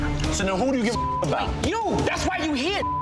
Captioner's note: beep